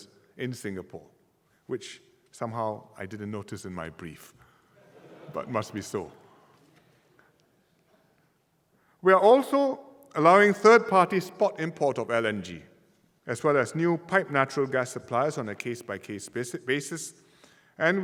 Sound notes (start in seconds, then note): 4.8 audience laughter